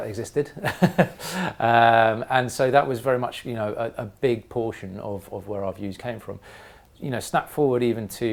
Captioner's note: laugh